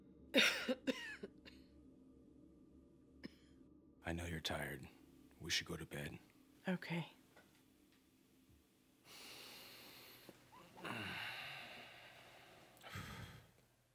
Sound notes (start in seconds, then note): 0.3 woman coughs; 10.8 man groans